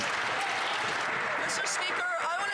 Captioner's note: some Applause